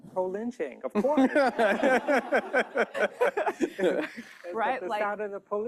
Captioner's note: laughter